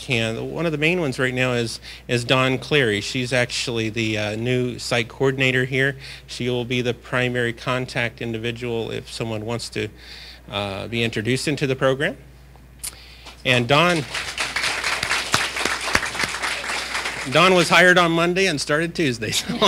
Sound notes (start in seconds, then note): 12.1 applause